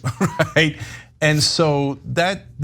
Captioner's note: laugh